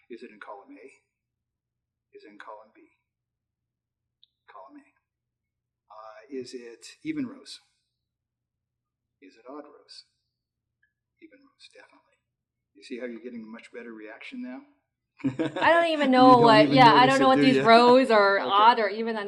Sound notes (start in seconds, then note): 15.2 laughs